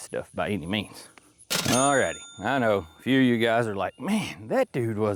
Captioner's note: bell Ringing